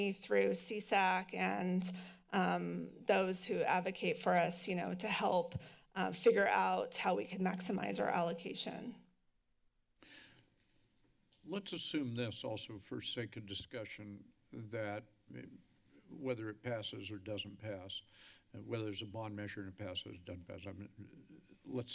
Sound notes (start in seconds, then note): 9.2 silence